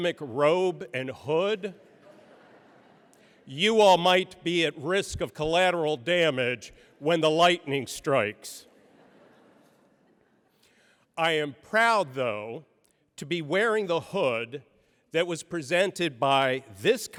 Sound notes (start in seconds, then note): 8.6 laughter